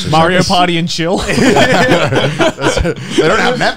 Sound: laughing

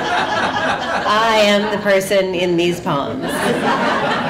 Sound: laughter

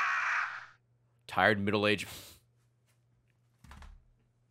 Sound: laughs

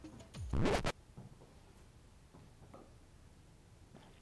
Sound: record scratching

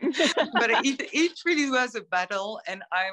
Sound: laughter

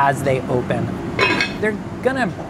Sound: pot lid clinking

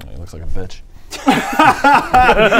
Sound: spiteful laughter

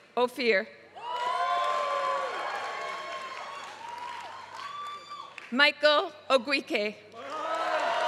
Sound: applause; applause

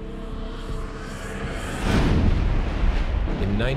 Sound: explosion

